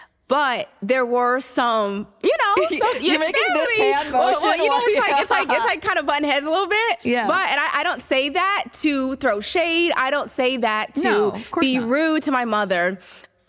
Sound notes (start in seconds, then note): 4.5 laughter